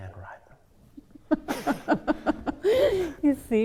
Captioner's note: laughing